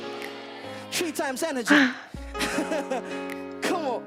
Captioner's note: sighs; laughs